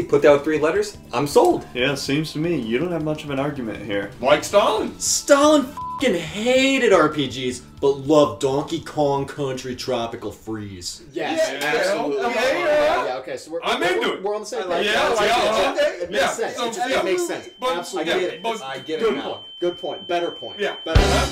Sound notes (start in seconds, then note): 5.7 beep; 16.1 tone rings; 16.5 men chatter; 20.9 intense rock music